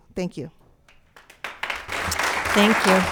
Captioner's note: audience clapping hands